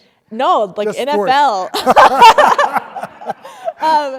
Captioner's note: laughs